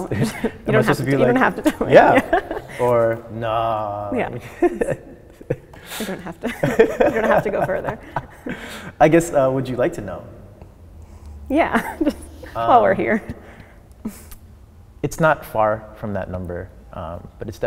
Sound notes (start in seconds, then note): 4.4 chuckles